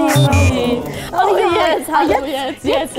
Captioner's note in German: Fehlerton